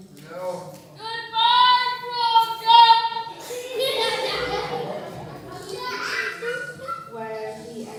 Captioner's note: laughter